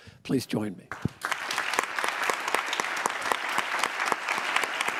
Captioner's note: applause